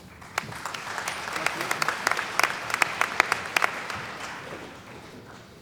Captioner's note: applause